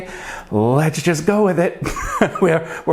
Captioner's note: laughs